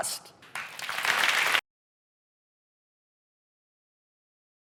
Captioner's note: audience applauds